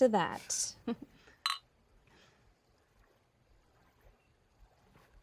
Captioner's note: glasses clinking